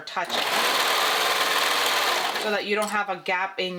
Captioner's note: sewing machine whirring